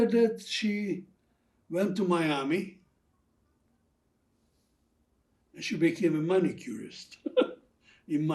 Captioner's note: laughing